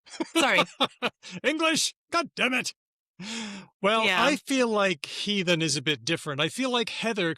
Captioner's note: laughs